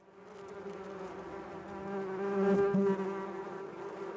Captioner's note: bees Buzzing